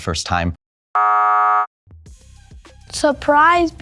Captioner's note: buzzer buzzing